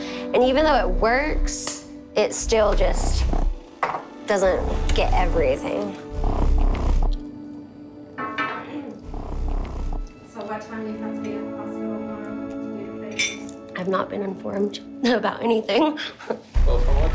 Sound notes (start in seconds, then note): 6.0 vibrating